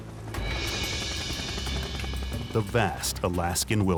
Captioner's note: helicopter blades spinning